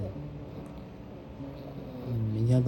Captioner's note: #purring